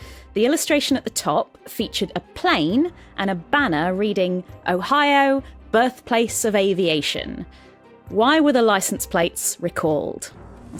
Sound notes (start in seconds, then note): none